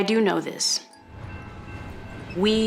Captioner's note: railroad crossing bell ringing